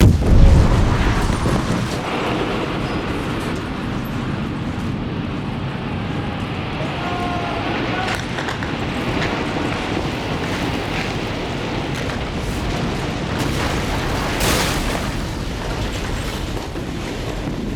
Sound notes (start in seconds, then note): 0.0 explosion echoes; 9.1 people screaming; 13.6 objects clatter